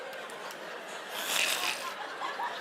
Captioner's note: creature growl